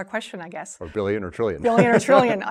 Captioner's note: laughing